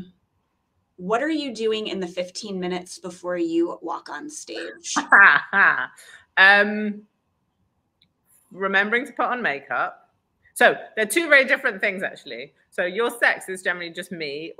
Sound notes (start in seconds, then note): 4.6 chuckles